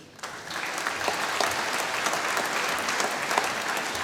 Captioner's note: applause